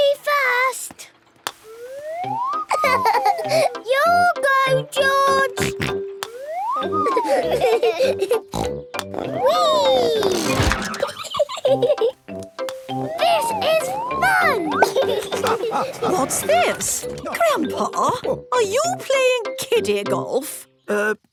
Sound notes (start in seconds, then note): 2.5 laughing; 7.0 snort, laughing; 8.5 snort; 13.2 laughing